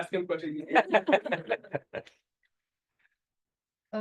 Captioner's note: laughter